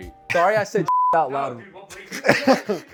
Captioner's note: beep